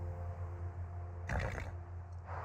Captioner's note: snorts